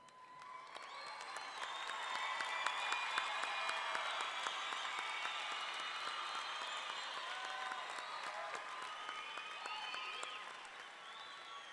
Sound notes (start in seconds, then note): 0.7 all clapping; 0.7 audience cheering